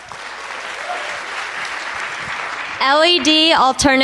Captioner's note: applause